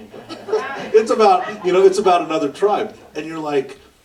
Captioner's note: laughter